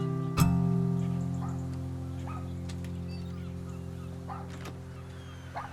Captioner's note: dog barking